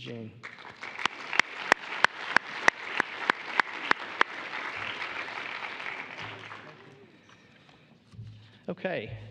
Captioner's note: applause